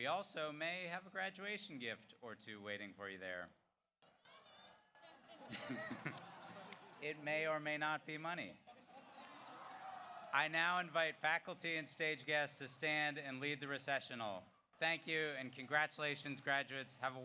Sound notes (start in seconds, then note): 4.3 audience cheers; 4.9 audience laughs; 8.6 audience laughs